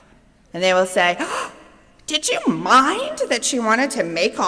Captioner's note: gasps